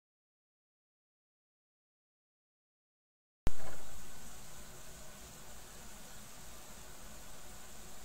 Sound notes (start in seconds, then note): 3.8 camera noises